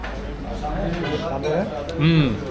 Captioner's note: speaking Turkish